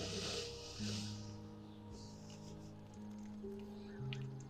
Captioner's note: inhales deeply